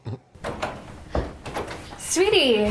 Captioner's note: very annoying laugh; door opens